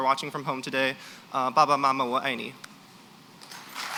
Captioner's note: non-english; applause